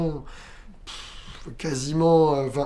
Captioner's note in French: pfff